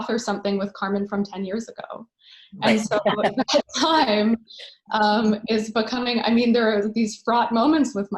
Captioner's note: laughter